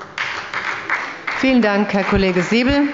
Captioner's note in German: Beifall bei der SPD